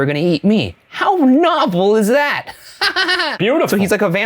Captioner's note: laughs